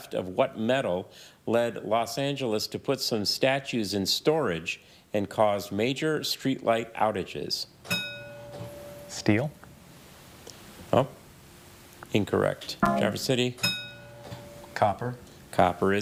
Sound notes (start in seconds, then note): 7.9 bell dings; 12.8 bell dings; 12.9 buzzer buzzes